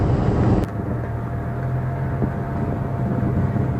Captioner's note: engine, electric fan sound